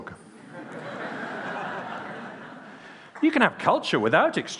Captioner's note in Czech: Smích